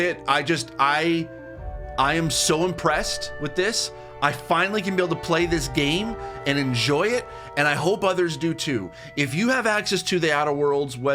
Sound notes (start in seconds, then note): none